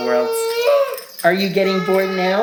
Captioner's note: vocalizing